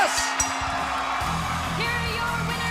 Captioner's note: bell ringing